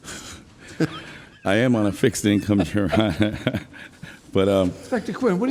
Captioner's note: laughs